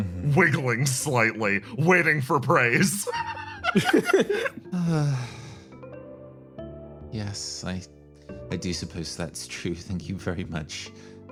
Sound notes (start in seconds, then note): 2.7 laughs; 3.8 sighs